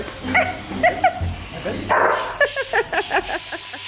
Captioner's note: laughs; Vilk barks